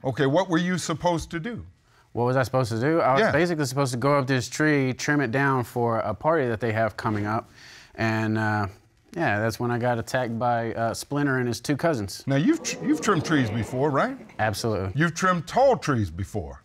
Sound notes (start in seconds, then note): 12.3 audience exclaims